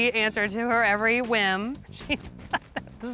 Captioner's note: laughing